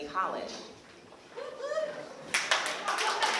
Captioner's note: applause